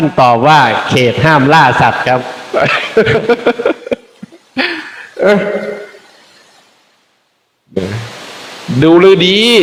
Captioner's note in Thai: เสียงหัวเราะ